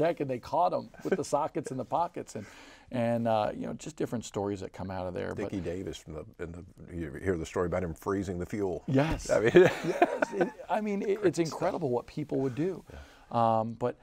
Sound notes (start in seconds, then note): 9.5 laughing